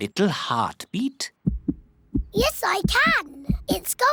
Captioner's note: heart thumps